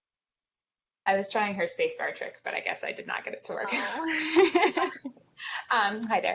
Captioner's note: laughs